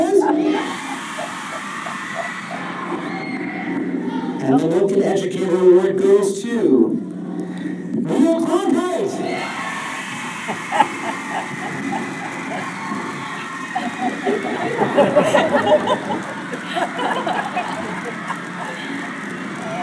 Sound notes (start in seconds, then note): 0.0 cheering; 9.1 cheers and applause; 10.9 laughter